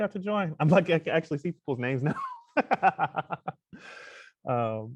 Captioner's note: laughs